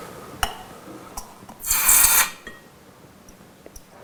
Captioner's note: hiss